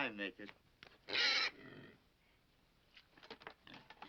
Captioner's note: pig squeals